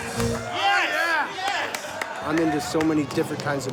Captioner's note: crowd applauding